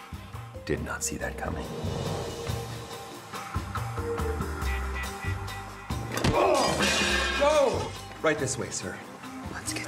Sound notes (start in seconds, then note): 6.2 glass shatters